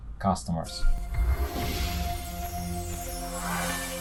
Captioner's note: logo whooshing